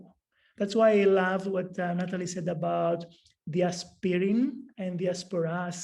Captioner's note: non-english speech